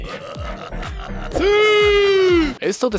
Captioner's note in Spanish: Sonidos de Risa malvada de los ejecutivos de EA y el CR7 diciendo SIUUUUUUU